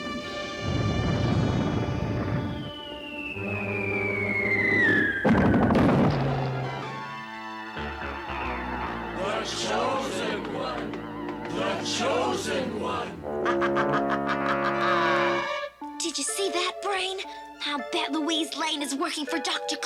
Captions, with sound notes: [BOOM] [CHANTING] THE CHOSEN ONE! THE CHOSEN ONE! [EVIL LAUGHTER] DID YOU SEE THAT, BRAIN? I'LL BET LOUISE LANE IS WORKING FOR DR. CLAW.